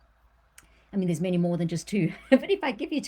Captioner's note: laughs